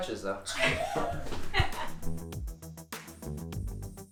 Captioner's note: laughing